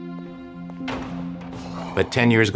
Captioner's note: locking mechanism clanging